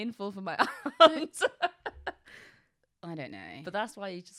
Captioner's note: laughs